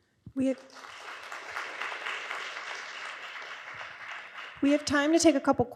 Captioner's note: audience applauds